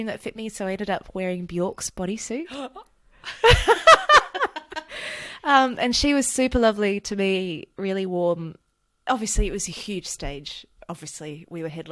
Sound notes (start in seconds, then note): 3.3 laughs